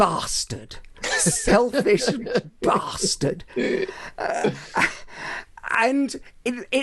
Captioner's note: laughing